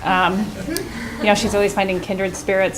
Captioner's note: chuckling